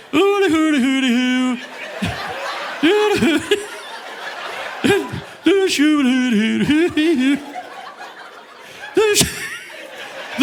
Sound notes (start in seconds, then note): 0.0 audience laughing; 0.0 chuckles; 2.4 chuckles; 4.6 laughs; 5.4 audience laughing; 5.4 speaking gibberish; 9.4 laughs